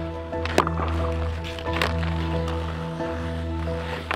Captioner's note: hockey puck banging